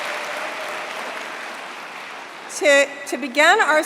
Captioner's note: applause